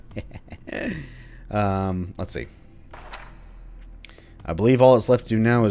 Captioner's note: chuckles; journal opens